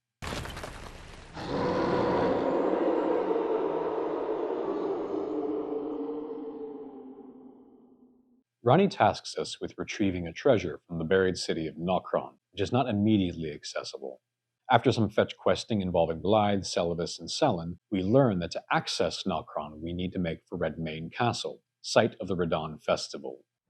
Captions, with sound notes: [Radahn howling] Ranni tasks us with retrieving a treasure from the buried city of Nokron, which is not immediately accessible. After some fetch-questing involving Blaidd, Seluvis, and Sellen, we learn that to access Nokron, we need to make for Redmane Castle, site of the Radahn festival.